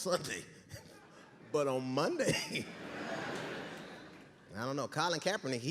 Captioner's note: audience laughing